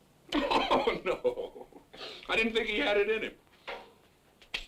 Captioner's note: laughs